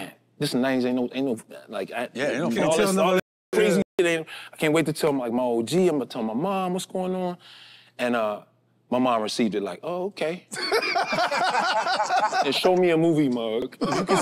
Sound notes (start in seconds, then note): 10.6 group laughs